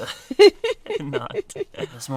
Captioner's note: laughs